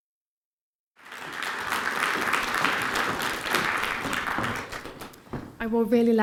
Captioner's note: applause